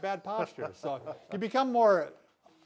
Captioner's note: laughs